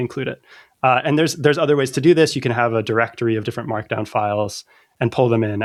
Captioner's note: uh